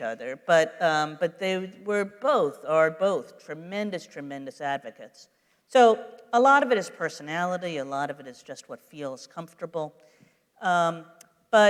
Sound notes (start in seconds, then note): none